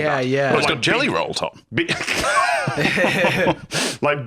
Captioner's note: all laugh